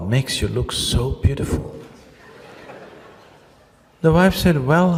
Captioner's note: laughter